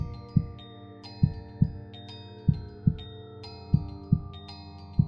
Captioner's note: heart beats